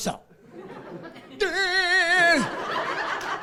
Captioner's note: laughing